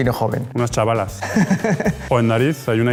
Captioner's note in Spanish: laughts